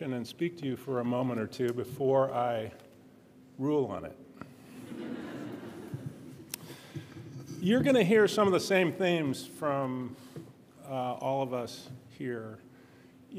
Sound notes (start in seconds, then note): 4.7 audience laughing